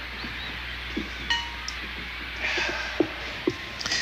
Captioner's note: long sigh